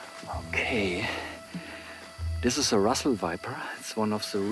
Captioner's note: in English